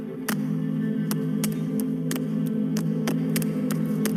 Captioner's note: handclaps